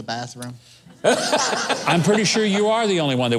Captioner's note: laughs